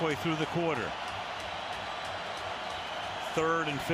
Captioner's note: cheers